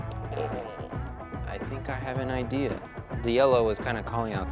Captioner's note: groans